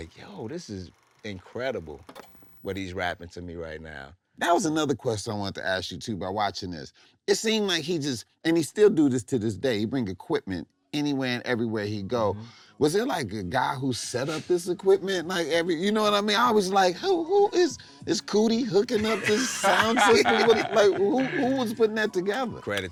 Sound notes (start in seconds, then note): 14.9 soft chuckling